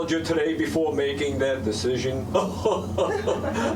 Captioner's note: chuckling